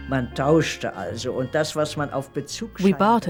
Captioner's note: speaking german